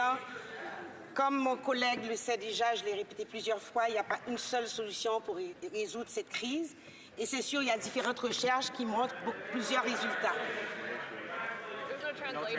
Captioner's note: speaking French